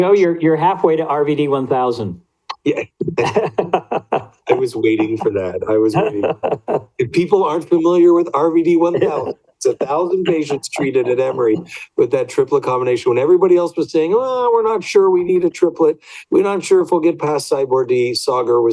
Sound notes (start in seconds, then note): 2.6 laughs